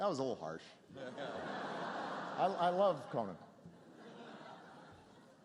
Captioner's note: laughter